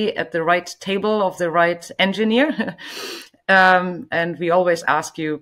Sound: chuckles

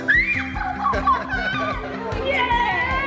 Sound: screaming

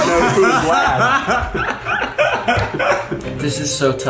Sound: group laughing

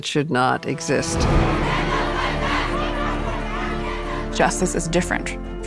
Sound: crowd chanting

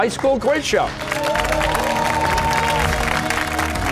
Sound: cheers and applause

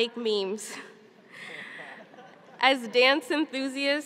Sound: laughing

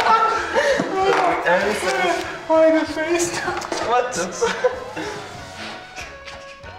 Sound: all laughing

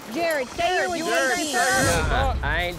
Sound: overlapping chatter

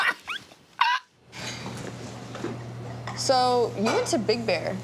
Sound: laughing

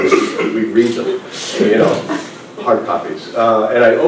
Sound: laughter

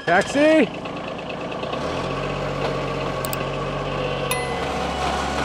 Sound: engine starting; engine running

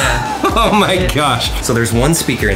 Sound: laughs

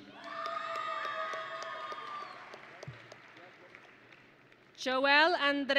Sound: audience and graduates cheering

